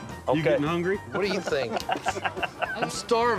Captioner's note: chuckling